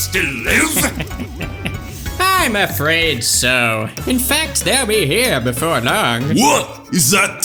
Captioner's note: chuckles